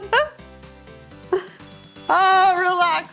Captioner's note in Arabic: يضحك; يرن الجرس